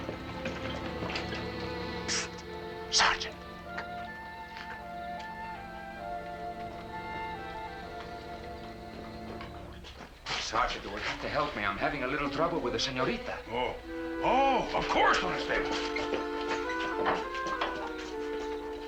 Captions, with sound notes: [WHISPERING] Psst! Sergeant. Come on. You will have to help me. I'm having a little trouble with the señorita. Oh. Oh, of course, Don Estevan.